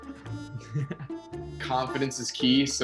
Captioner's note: giggles